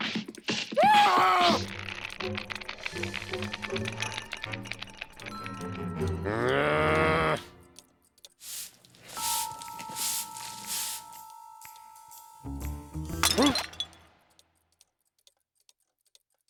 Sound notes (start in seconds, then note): 0.7 screams; 6.0 growls; 12.4 crashing noise